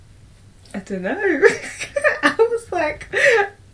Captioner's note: laughs